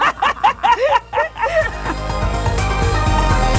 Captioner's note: both laugh; electronic music